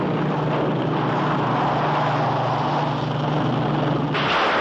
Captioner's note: tires squeal; crashing